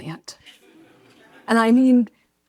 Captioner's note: audience laughs